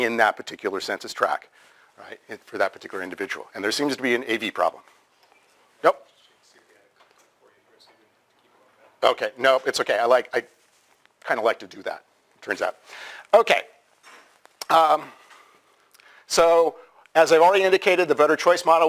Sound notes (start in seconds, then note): 6.2 pause; 14.1 pause